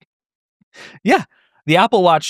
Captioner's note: laughs